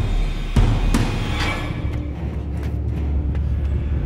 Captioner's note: metal clangs